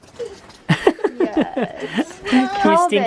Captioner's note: laughs